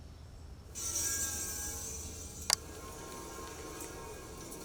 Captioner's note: metal scraping